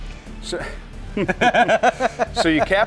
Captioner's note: laughter